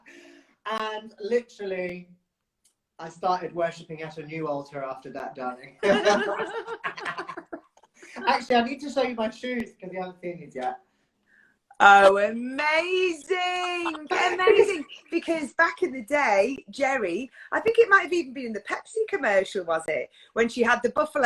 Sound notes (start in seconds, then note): 5.8 laughs; 13.7 laughs